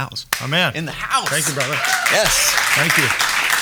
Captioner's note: applauding